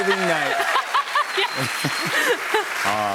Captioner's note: laughs; cheers and applause